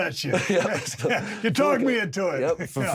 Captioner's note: Drew and Steve laugh